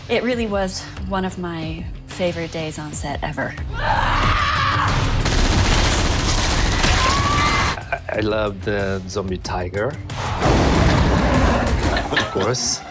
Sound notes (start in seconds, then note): 3.7 screaming; 5.0 machine gun blaring